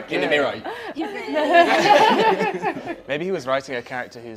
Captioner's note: laughter